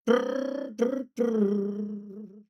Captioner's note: imitates guitar